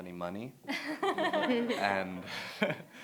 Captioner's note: laughter